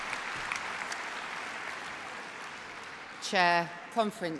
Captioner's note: applause